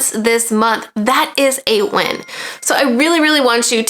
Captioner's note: bell chiming